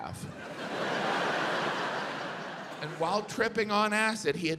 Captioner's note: audience laughs